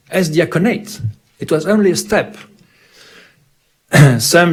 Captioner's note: clears throat